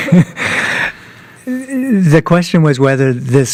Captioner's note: laughter